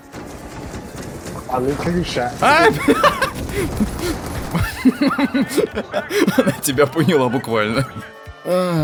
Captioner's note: laugh